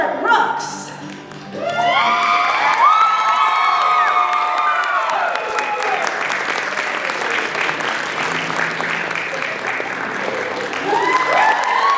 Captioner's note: cheering